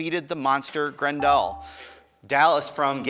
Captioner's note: buzzer dinging